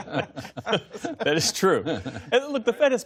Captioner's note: laughter